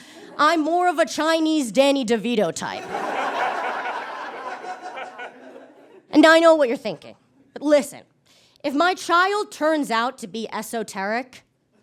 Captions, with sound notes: I'm more of a Chinese Danny DeVito type. (audience laughs heartily) And I know what you're thinking. Listen, if my child turns out to be esoteric,